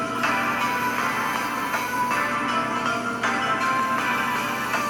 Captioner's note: bandsaw buzzing